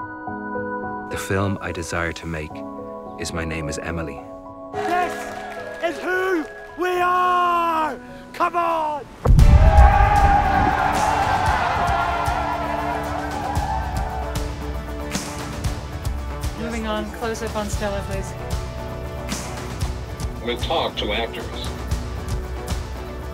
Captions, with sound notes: The film I desire to make is "My Name is Emily." This is who we are! Come on! [upbeat music] [cast shouts hooray] Moving on, close-up on Stella, please. We'll talk to actors.